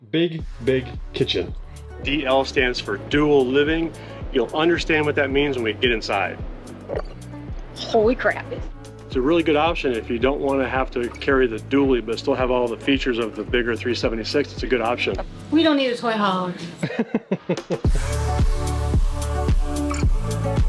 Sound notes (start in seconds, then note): 16.7 laughs; 17.7 upbeat music